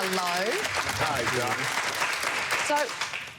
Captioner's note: applause